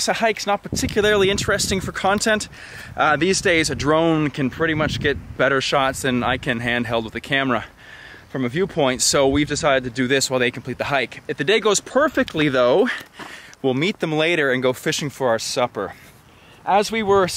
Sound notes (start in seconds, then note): none